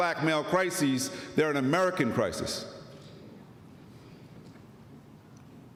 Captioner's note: none